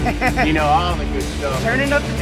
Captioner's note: hearty laughing